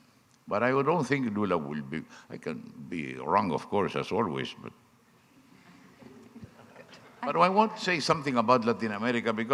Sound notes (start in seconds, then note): 5.7 audience laughing